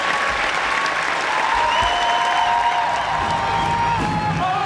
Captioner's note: cheering